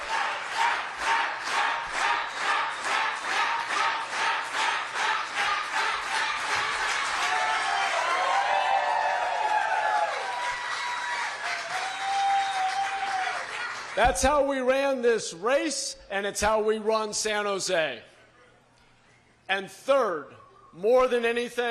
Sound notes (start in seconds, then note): 4.1 applause; 6.1 crowd chanting